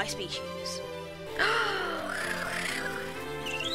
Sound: gasp

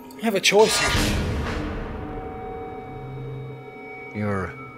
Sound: dramatic swishing

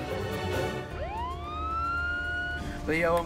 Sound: ambulance siren

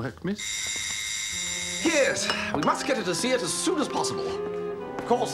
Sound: doorbell

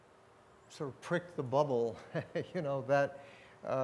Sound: laughs

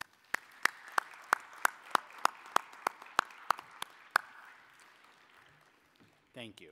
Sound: applause

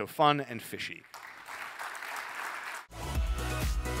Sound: applause

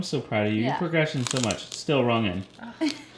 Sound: food crunching

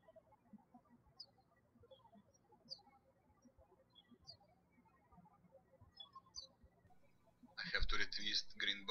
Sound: birds chirping

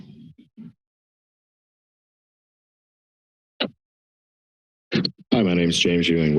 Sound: silence

